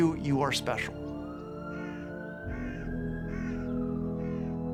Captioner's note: bird caws, sirens wailing